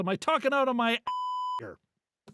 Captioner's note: beep